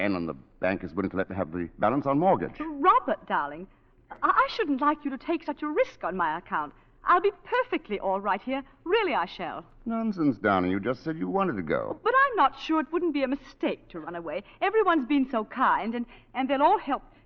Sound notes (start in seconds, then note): none